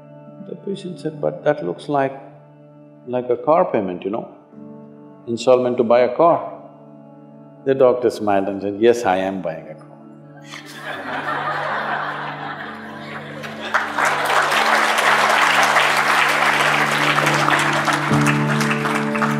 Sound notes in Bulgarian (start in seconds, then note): 14.6 Смях / Аплодисменти